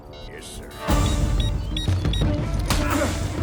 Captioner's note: beeping